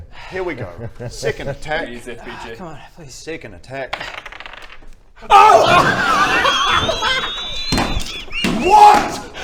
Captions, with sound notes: Here we go second attack Please Fbg C'mon...please Second attack OH! *Stunned hysterical laughter* WHAT